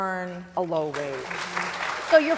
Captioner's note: applause